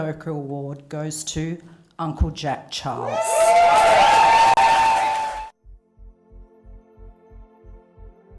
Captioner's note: cheering and applause